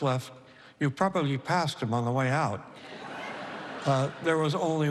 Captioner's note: laughter